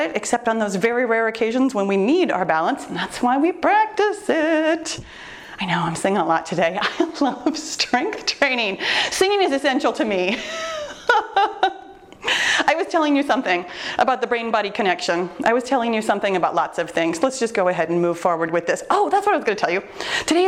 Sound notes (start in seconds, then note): 10.3 laughing